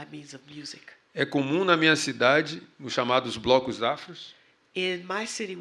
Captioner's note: speaking portuguese